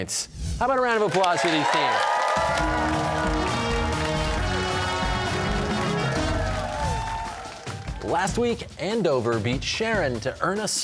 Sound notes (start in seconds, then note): 2.7 cheers and applause